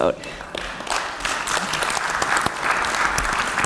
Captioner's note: applause